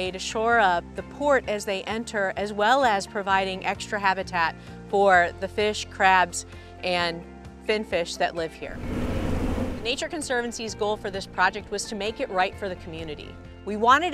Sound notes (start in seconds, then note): 8.7 bulldozer noise